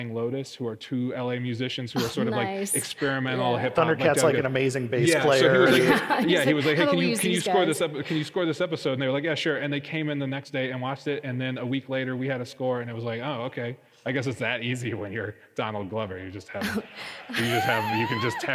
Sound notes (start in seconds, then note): 5.3 laughs